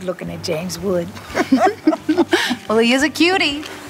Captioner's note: both women giggling